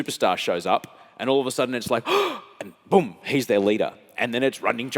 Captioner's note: gasps